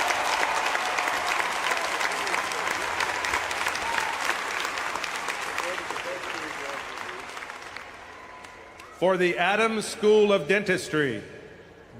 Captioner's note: applause